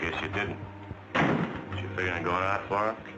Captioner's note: door thudding